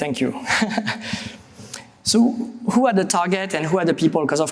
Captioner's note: chuckles